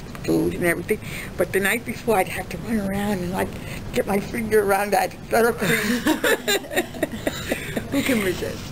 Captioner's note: laughs